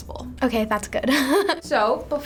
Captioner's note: chuckles